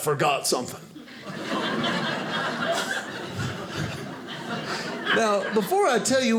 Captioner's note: audience laughing